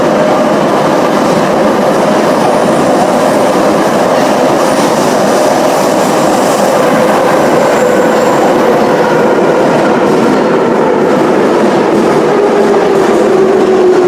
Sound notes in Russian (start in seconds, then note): 6.8 торможение - прибытие на станцию